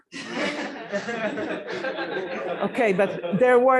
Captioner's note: laughter